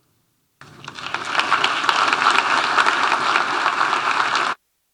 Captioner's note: audience applauding